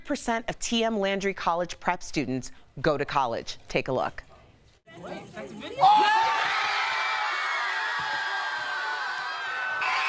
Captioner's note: cheering